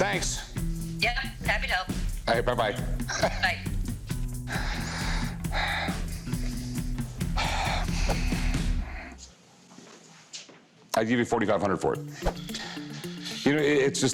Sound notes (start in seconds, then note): 4.4 sighs repeatedly